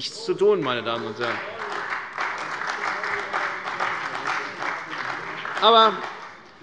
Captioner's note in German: Beifall bei der CDU und dem BÜNDNIS 90/DIE GRÜNEN